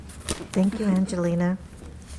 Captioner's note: speaking in a foreign language; faintly speaking